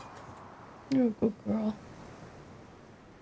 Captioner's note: quietly